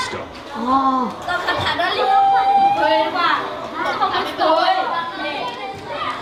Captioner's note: kids chatter